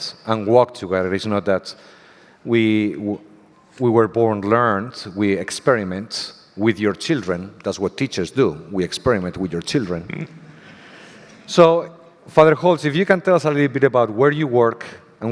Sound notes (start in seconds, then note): 9.8 audience laughter